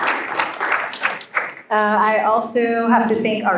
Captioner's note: applause